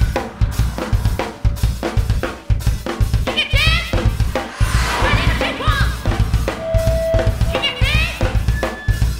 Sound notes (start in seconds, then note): 3.4 speaking in foreign language; 3.8 drum music